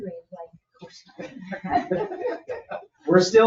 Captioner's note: people chuckle